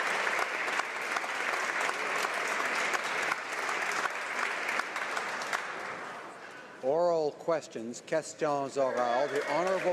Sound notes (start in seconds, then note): 4.8 applause